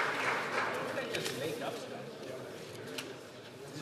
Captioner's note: some Applause